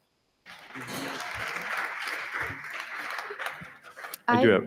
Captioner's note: audience applauding